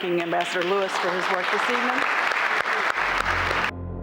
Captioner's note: applause